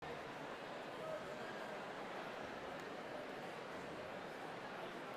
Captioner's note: people chatter indistinctly